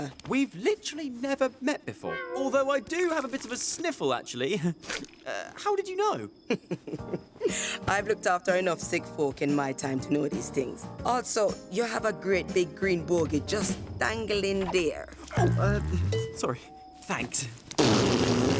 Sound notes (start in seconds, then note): 5.0 sniffling; 6.4 chuckling